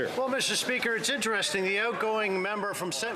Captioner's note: some Applause